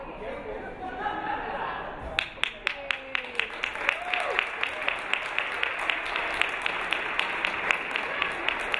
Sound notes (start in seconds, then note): 2.1 audience clapping